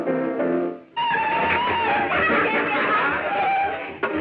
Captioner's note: laughing